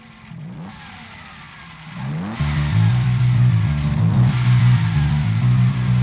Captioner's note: Dinos engines roar